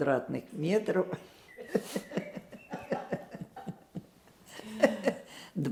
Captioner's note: laughing